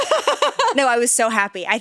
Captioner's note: laughs